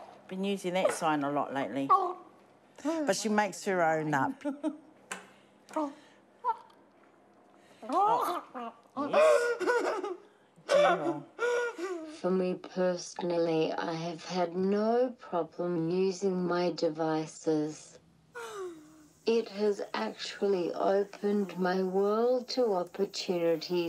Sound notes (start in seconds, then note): 7.9 laughs; 11.1 continues laughing